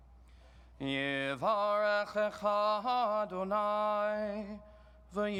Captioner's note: chants in foreign language